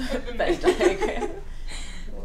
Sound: laughter

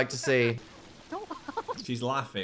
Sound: Sachiko laughs

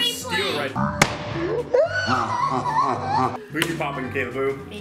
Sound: balloon pops loudly

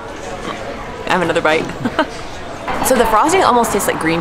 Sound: laughs

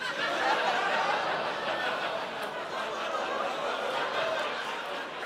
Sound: audience "oohs"

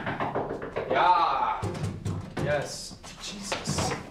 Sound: knocking on door

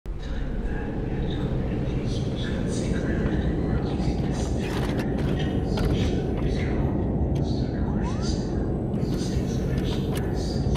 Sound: strange Whispers

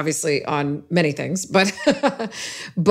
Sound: laughs

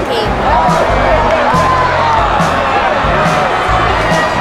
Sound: crowd cheering

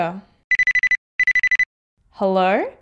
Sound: ringing

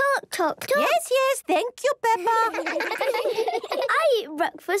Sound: children laughing

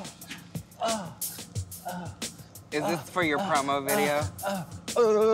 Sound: moaning

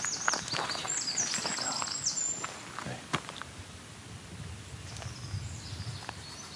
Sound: whispers to the trees

